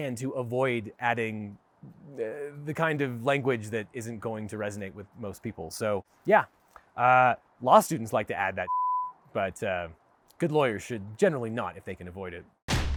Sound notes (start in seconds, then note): 8.6 beep